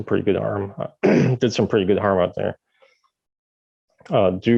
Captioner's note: clears throat